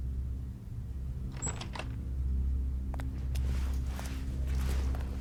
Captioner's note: door unlatching